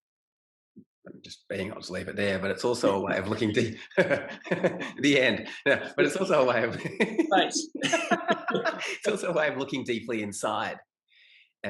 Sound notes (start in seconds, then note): 6.0 laughs; 8.5 both laugh